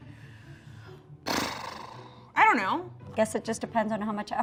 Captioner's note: sighs